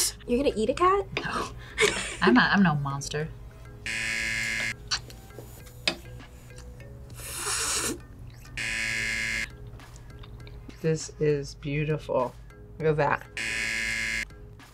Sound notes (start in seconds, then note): 3.8 buzzer; 7.0 buzzer; 7.2 slurps; 13.3 buzzer